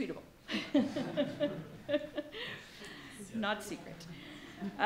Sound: laughing

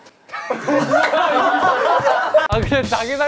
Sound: laughing

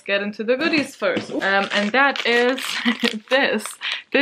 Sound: laughs

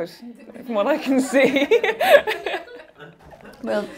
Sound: laughing

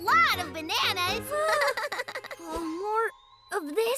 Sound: chuckles; exclaims in horror

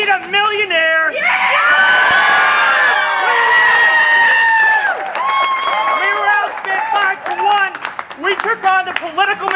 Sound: applause

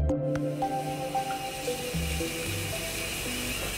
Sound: water running

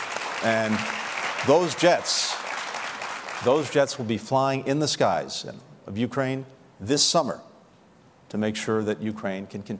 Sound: applause

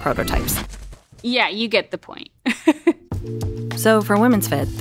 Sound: laughs

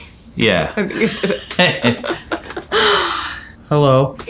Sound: both laugh; laughs

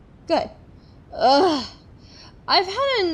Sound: groans

